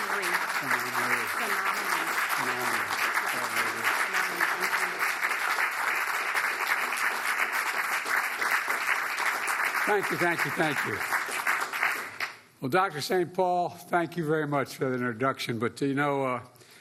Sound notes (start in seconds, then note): 5.3 applause